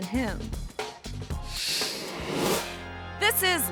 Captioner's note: screen whooshes